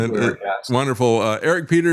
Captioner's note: laughing